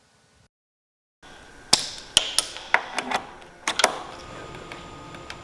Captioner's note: clinking; ambient music